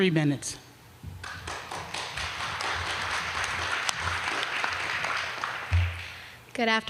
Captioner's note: applause